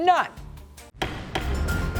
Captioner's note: dramatic music; gavel bangs